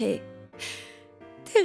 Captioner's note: holds his breath in regret